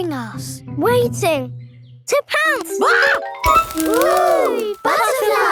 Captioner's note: screams